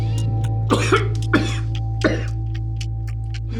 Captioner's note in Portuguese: tosse